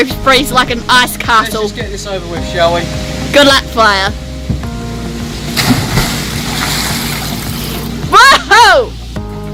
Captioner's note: water splashes as he dives in